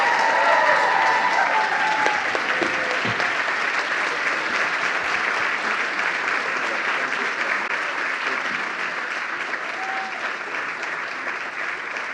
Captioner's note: applause